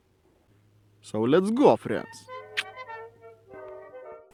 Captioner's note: tsch sound